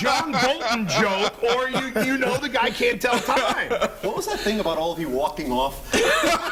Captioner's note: laughter